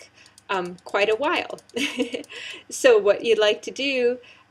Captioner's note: laugh